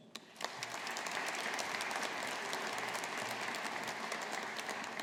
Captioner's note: audience applauding